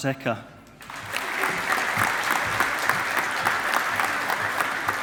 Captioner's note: audience applauding